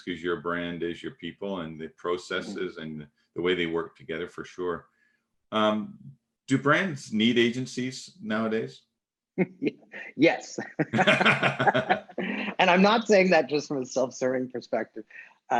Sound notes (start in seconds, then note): 10.6 both laughing; 10.8 laughing